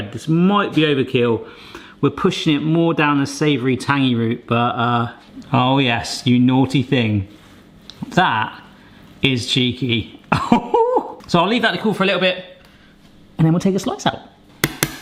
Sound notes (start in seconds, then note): 10.5 gasps excitedly